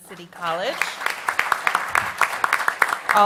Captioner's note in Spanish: Aplausos